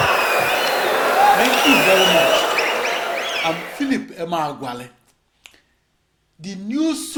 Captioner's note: wild applause and cheering for 22 seconds